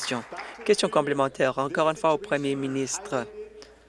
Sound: applause

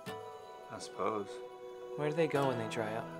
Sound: voiceover

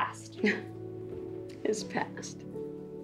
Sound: laughs

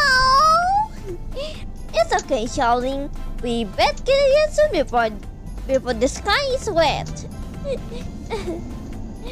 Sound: laughs

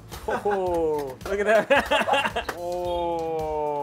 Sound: laughs

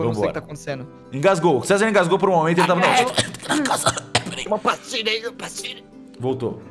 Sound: choking

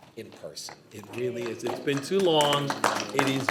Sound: every body applauding

